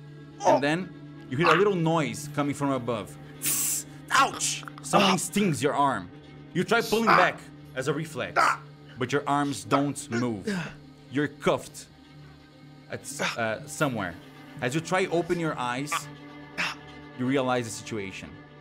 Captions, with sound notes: You hear a little noise, coming from above. [air hissing, grunting] something stings your arm. You try pulling back, as a reflex, but your arms don't move. You are handcuffed somewhere. As you try to open your eyes... You realize the situation.